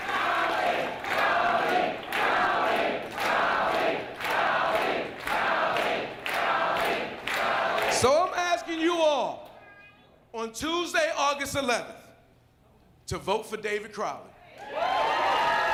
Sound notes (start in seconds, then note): 0.0 applause; 6.4 crowd chanting